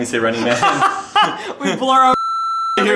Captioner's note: laughs